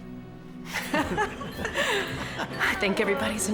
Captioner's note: georgia and bryant laughing